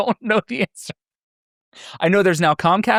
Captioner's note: laughing